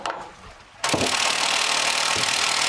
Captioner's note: rattling sounds